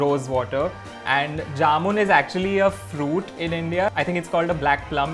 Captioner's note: Hindi